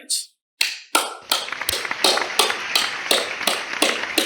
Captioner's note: applauds